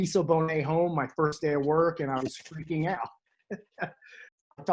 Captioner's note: chuckles